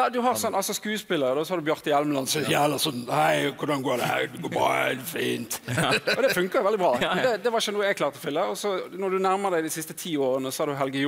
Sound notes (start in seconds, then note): 4.9 in a deep voice